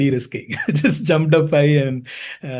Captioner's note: chuckling